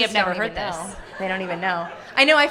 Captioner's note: audience laughing